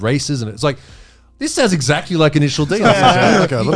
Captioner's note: all laughs